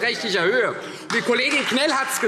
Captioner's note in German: Beifall Freie Demokraten